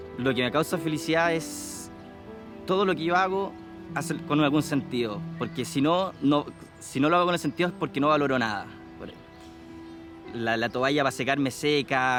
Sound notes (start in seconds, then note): 0.2 speaking in foreign language; 5.1 birds twittering